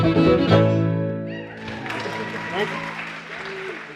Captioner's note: applause